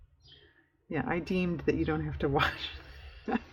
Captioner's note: laughs